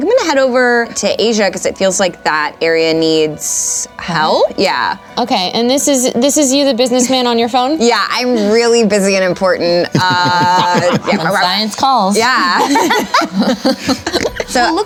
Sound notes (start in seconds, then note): 9.9 chuckles; 12.3 everyone laughs